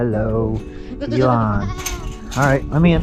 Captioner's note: goat bleats